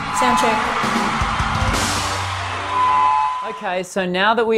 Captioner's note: audience applauding and cheering